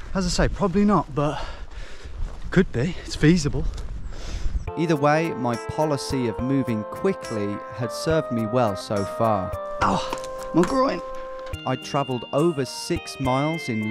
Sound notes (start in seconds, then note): 4.9 voiceover; 11.8 voiceover